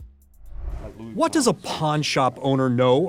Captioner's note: graphics whoosh